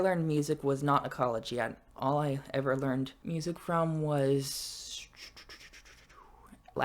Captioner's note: clicking mouth